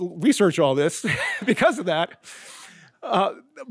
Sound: chuckles

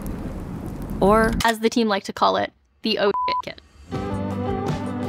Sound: beep

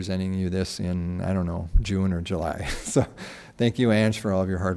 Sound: laughs

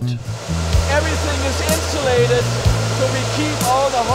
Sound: fans whirring

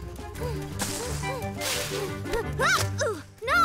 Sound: panting

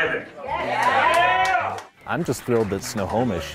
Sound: crowd cheering

